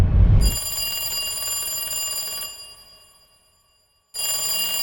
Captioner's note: phone ringing